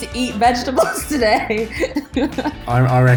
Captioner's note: laughs